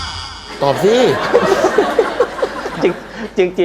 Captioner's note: laughter